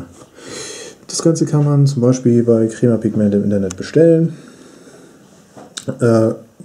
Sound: german

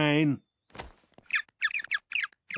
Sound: squeaking

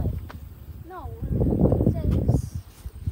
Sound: wind muffles voice

